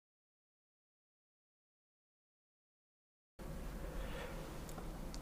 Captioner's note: silence